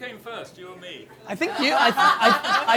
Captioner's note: laughter from group